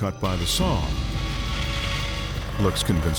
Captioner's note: saw buzzing